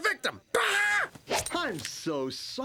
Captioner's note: screaming